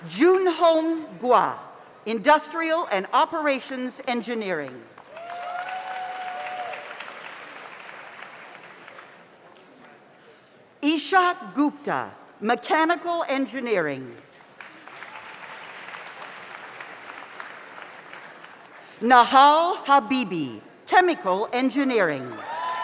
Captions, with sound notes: June Hong Gwa, Industrial and Operations Engineering. (audience applauds) (audience cheers) Isha Gupta, Mechanical Engineering. (audience applauds) Nahal Habibi, Chemical Engineering.